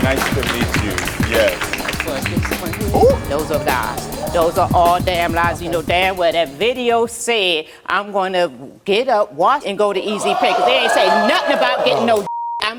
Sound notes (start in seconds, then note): 10.0 audience reacts excitedly; 12.2 beep